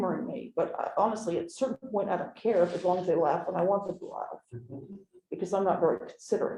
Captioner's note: laughter